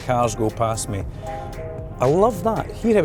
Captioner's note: Kia beeps melodically